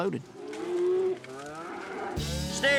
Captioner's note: mooing